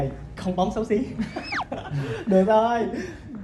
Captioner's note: laugh